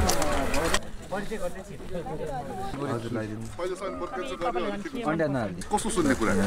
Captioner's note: indistinct conversations